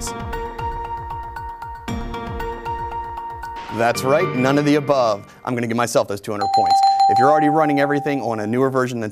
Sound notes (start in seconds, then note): 0.2 intense music; 6.4 dings